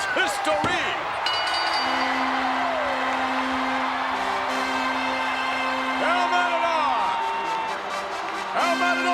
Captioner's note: applause